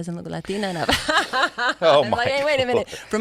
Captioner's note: laughs